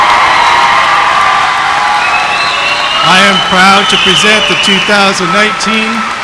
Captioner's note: applause